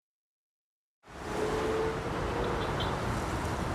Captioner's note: traffic noise